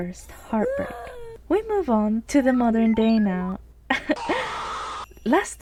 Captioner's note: chuckle